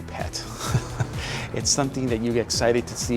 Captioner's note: chuckles